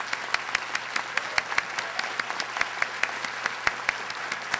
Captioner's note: audience applauding